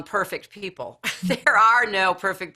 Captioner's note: laughing